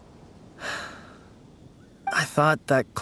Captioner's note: sigh